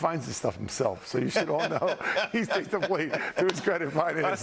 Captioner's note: laughter